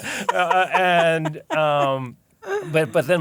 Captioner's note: laughs